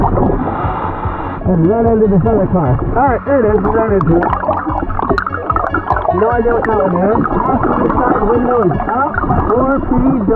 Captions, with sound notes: (oxygen bubbling in water) (oxygen tank hissing) and run into this other car. All right, there it is. We've run into it. (oxygen bubbling in water) No idea what that one is. Passenger side window is up. 4PW